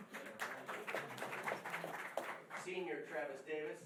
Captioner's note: applause